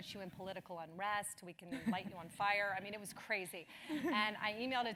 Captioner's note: laugh